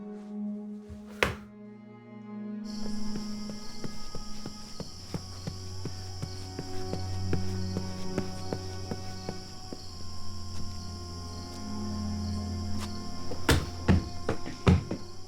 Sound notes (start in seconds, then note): 0.2 tense music; 2.7 footsteps thudding; 11.6 tense music